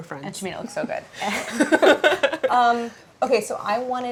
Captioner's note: both laughing